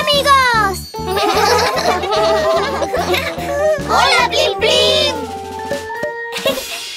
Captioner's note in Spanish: Risas